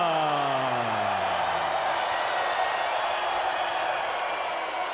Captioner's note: spectators cheering